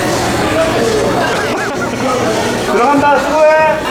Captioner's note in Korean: ㅎㅎㅎㅎ